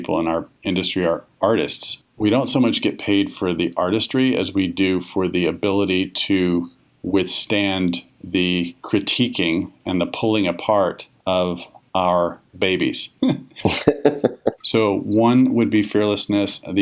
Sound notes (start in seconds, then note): 13.5 laughs